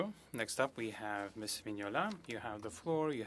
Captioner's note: speaking French